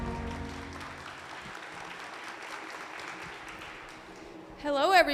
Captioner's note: audience applauding